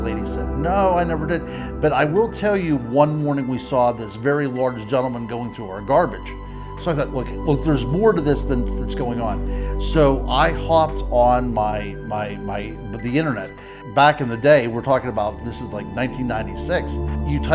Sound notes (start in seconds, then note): none